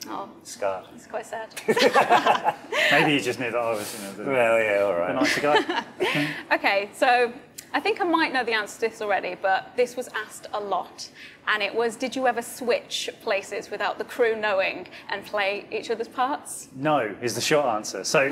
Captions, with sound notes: Scarred. - It's quite sad. (everyone laughing) - Maybe he just knew that I was - - Well, yeah all right. - Okay, so I think I might know the answer to this already, but this was asked a lot and it was, did you ever switch places without the crew knowing and play each other's parts? - No, is the short answer.